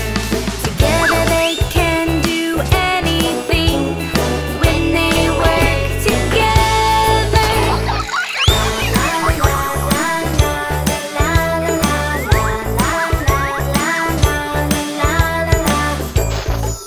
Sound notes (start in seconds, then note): 7.6 animals laughing